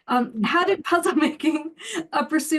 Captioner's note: chuckles